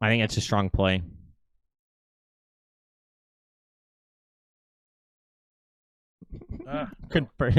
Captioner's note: man laughs